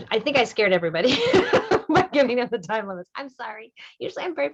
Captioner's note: laughter